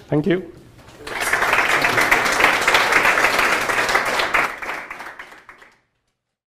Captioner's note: applause